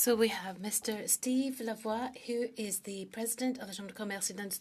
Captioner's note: speaking French